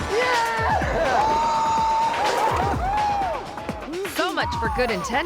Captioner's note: shouting excitedly